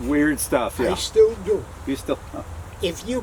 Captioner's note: laughs